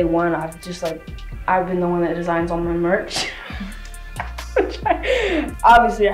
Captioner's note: laughs